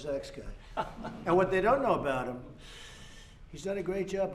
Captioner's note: laughter